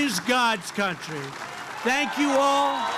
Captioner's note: applause